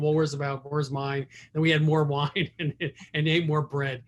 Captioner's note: laughing